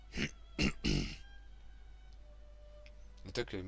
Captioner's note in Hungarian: köhögés